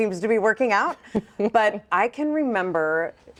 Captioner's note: chuckles